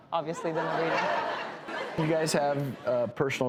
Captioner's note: audience laughing